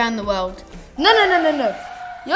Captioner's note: car skids